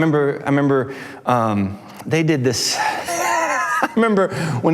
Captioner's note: laughs